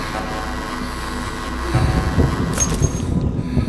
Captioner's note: bulb Fuses